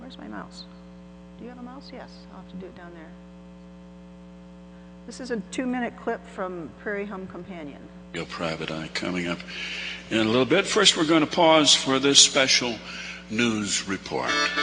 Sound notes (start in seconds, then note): 8.4 voiceover